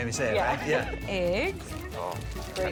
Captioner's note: laughing